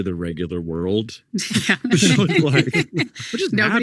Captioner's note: group laughing